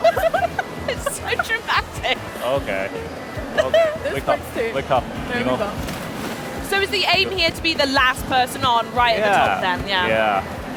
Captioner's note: laughter